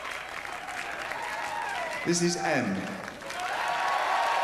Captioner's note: cheering